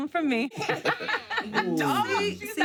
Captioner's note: laughter